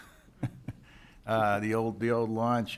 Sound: laughs

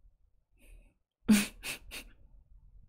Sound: chuckles

